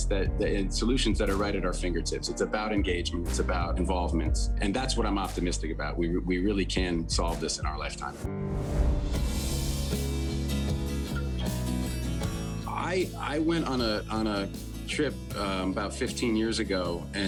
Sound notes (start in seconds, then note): 8.2 image whooshing; 8.6 upbeat instrumental music